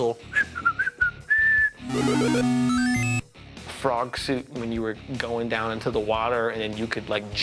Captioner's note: arcade sounds; whistling; arcade sounds